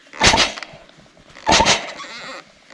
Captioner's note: beep